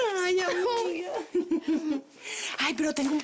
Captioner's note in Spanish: Risas